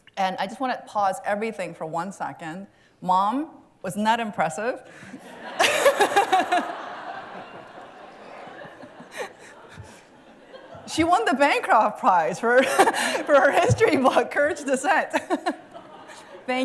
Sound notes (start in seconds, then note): 5.0 laughter